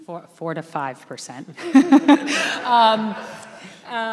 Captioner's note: laughing